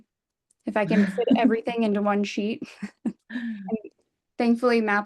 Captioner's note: laughs